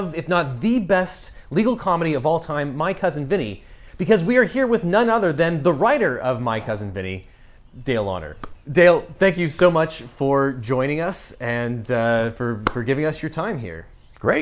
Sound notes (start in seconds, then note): 8.4 hands thud; 12.6 hands thud